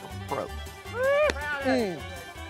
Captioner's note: cheering